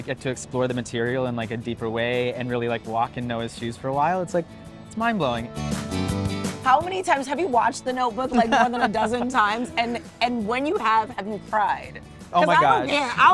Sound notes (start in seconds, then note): 5.6 light music continues; 8.3 John laughing